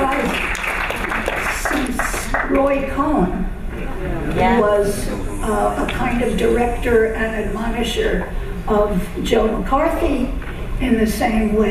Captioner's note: applause